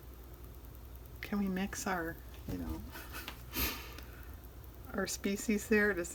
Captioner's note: laughs